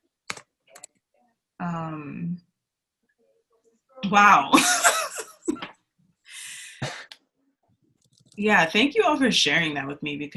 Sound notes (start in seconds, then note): 5.0 laughs